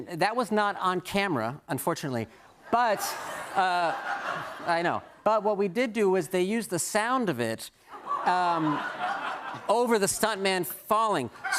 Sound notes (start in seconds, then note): 2.7 laughter; 10.5 laughter